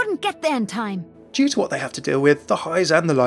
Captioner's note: voiceover